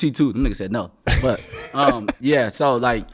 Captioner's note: laughing